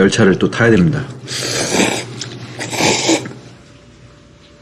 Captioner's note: slurp